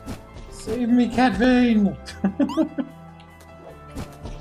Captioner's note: laughs